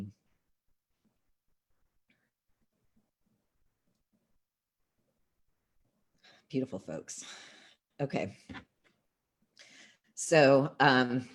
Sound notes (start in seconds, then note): 0.3 moment of silence